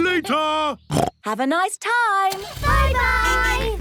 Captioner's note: snorts